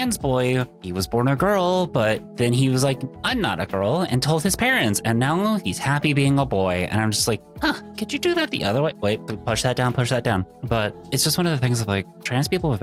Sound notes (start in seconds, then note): none